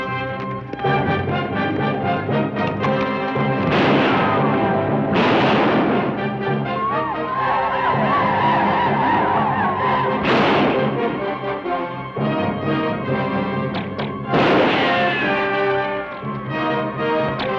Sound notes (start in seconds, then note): 2.5 gun cocks; 3.6 gun fires; 6.2 native Americans howl; 10.2 gun fires; 14.2 gun fires; 14.2 bullet ricochets; 17.3 bows twang